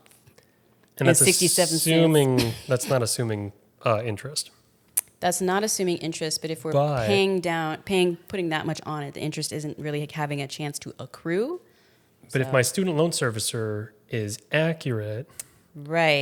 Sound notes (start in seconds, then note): 1.1 laughs